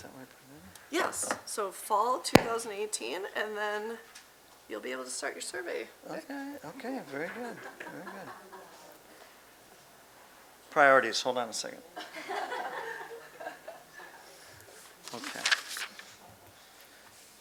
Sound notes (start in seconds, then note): 11.9 laughing